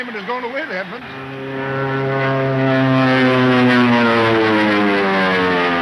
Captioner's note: plane engines whining